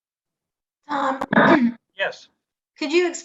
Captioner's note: clears throat